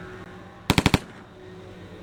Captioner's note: interior turret shooting